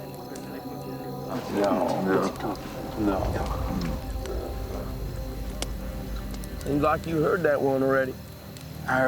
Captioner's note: men chattering